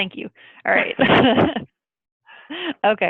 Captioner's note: laughs